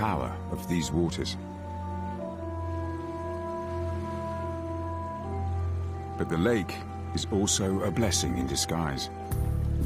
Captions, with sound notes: But the lake is also a blessing in disguise. (water running) (peaceful music)